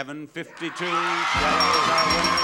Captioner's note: audience cheers